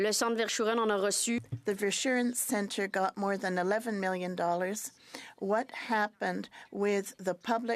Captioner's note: speaking French